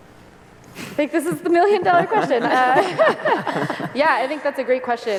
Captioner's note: laughter